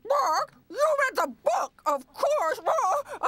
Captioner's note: clucks